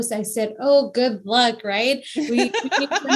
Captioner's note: laughs